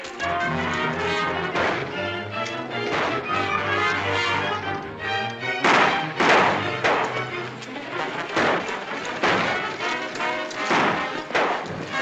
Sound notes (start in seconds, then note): 5.3 gunshots